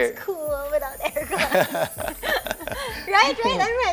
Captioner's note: laughs